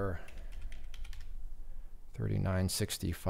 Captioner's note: keyboard clicking